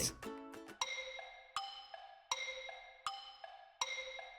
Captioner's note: clock ticking